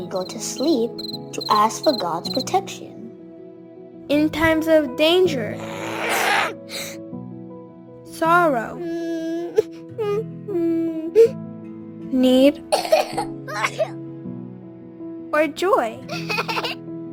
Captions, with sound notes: when we go to sleep to ask for God's protection. - In times of danger, - [ growling ] sorrow, - [ crying ] need, - [ coughing ] or joy! - [ laughter ]